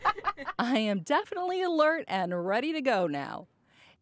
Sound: laughter

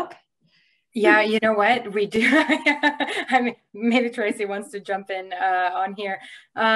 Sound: laughs

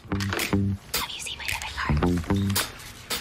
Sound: whispers

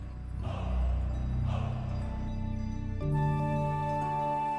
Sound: men chanting

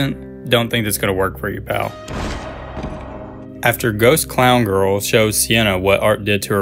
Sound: play audio of gunshot

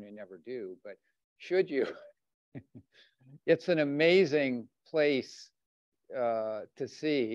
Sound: chuckles

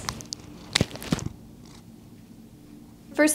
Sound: purring

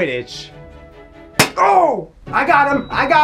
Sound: ball thudding; groaning

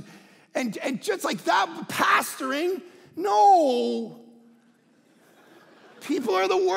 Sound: congregation laughing

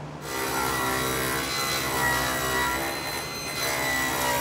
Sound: saw buzzing

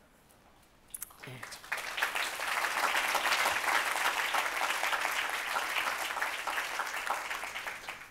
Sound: audience applauds

